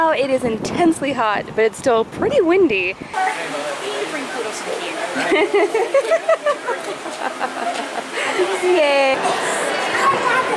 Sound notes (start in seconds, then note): 5.1 laughs